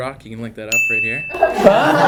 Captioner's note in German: Dinging; Lachen